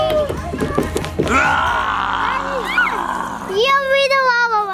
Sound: screams

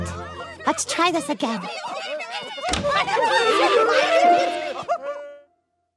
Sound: multiple loud voices

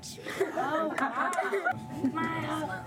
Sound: laughter

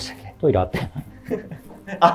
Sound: laughing

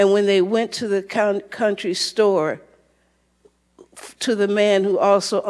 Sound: none

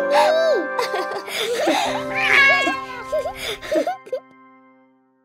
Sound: laughing

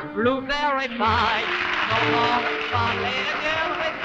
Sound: audience applauding

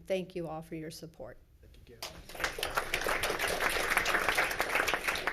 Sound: all clapping

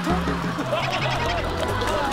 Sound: laughing

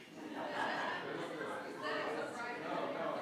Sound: members laughs; members chattering

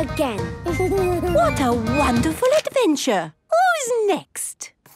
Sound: Danny giggles

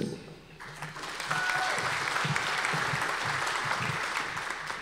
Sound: audience applause

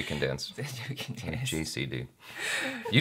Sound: laughs

